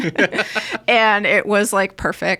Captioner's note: all laughing